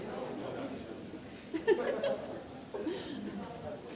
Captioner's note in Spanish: Risas